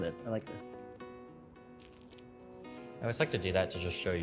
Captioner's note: crunching